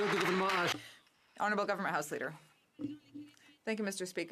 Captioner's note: some Applause